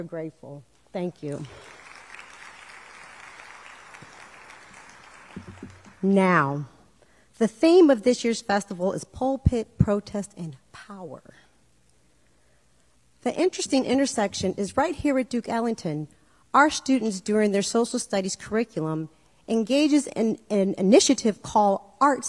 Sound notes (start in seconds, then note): 6.3 applause